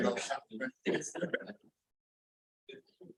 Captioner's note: laughter